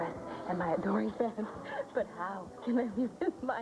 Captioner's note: french accent